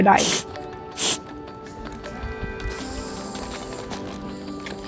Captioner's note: sound of air escaping